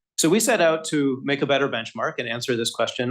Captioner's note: none